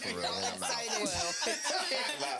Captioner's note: laughing